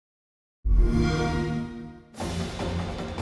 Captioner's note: xbox sound